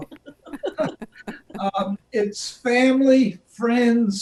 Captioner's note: both laughing